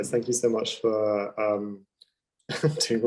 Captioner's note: laughing